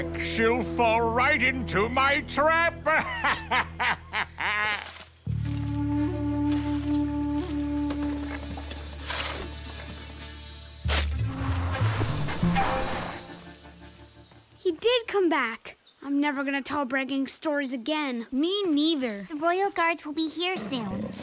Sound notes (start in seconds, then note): 2.8 laughs